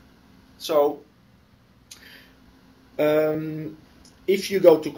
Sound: pause

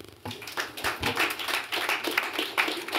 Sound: applause

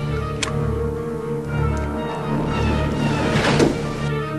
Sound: buttons pushed; wheel cranking

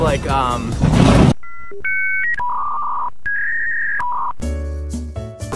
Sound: modem sounds; ♫ elevator music ♫

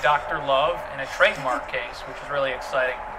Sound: laughs

